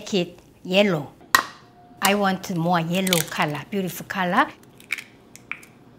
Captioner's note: crack